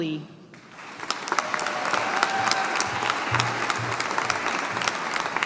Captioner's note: audience applauding